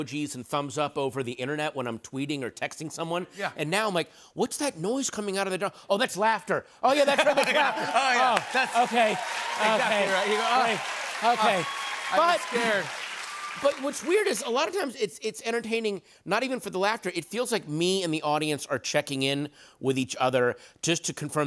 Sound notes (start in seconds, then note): 7.1 cheers and applause